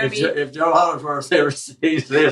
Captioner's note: laugh